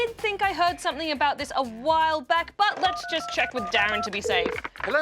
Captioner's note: dials